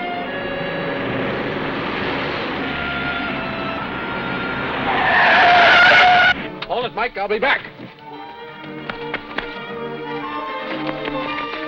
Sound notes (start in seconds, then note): 5.2 breaks squealing; 8.8 rapid footsteps